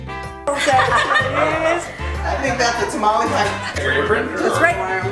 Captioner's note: Latin music; laughter and chatter